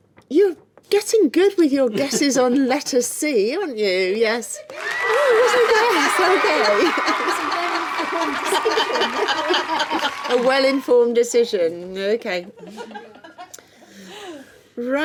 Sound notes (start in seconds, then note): 4.7 cheering sound effect; 7.0 laughing